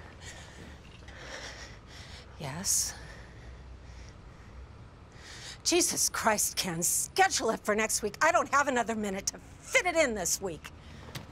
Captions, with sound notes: [panting] Yes? Jesus Christ, Ken, schedule it for next week! I don't have another minute to fit it in this week!